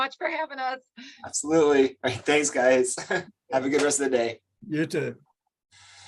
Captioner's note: chuckles